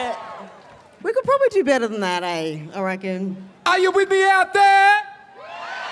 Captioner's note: cheering